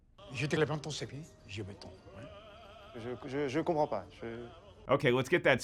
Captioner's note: speaking in foreign language